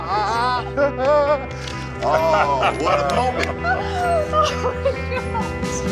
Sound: laughing

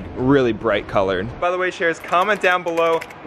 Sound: computer keys clicking

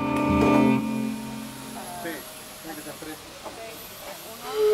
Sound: speaking Spanish

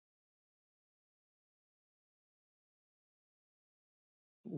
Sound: silence

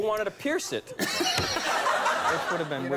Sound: audience laughs

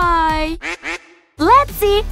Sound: duck quacks

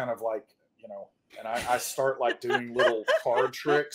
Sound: laughing

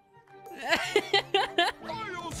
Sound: laughter

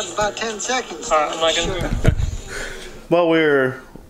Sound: chuckles

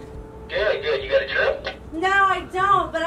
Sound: man On Radio

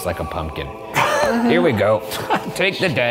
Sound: laughing

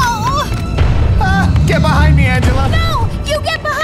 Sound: electricity fizzes; boom

